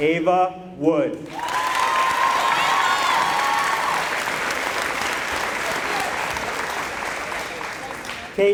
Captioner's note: applause